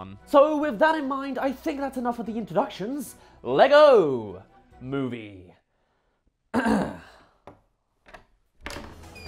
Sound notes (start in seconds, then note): 6.5 clears Throat; 6.8 happy sighs